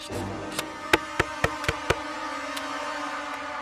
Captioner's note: Knocks on door